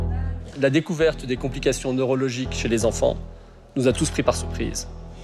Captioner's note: speaks in foreign language